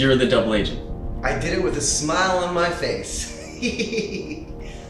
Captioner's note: laughs